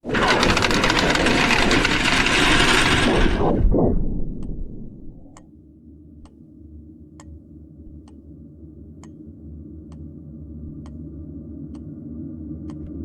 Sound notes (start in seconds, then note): 0.0 rattling sound; 6.8 gears ticking